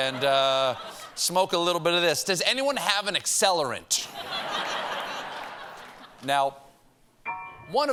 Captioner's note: laughter; piano riff